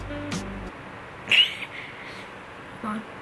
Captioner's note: laughs